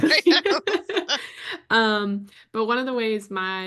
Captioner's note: laughter